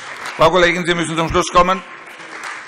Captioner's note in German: Beifall Freie Demokraten